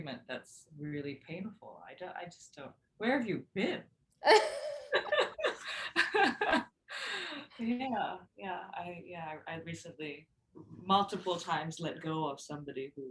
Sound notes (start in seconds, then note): 4.3 both chuckling